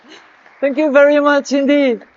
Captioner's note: audience clapping